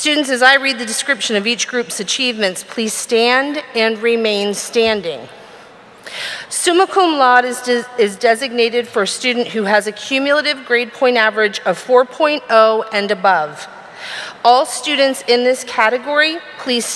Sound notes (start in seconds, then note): none